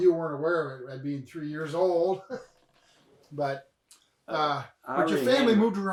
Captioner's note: chuckles